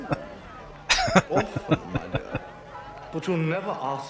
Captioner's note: laughing